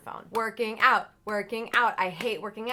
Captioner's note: claps